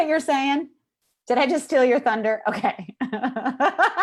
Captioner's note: laughs